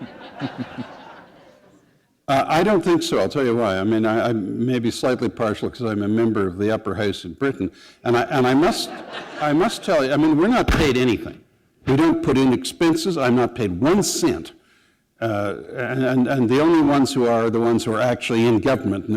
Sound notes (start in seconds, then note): 0.0 laughter; 8.7 laughter